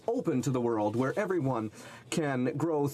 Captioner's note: speaking French